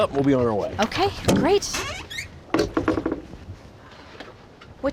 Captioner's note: creaking sound